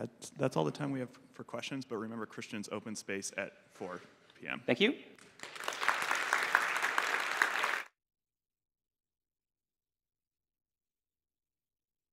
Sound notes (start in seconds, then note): 5.2 applause